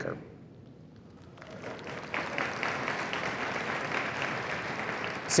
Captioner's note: cheering and applause